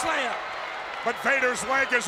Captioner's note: audience cheers